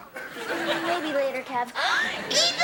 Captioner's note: audience laughing